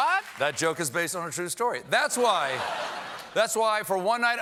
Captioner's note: cheers and applause